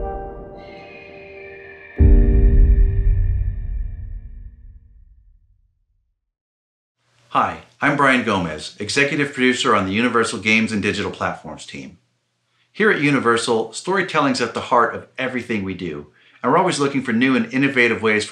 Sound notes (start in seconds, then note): 0.6 bird screeches